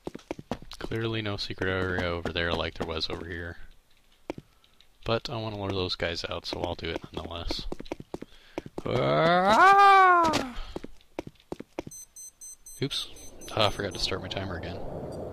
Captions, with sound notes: Clearly no secret area over there like there was over here, but I want to lure one of those guys out so I'll do it nonetheless. [imitates Howard Dean Scream/Kyle jumping off stuff] Rrrraaaaahhhh! Oops, aw, I forgot to start my timer again.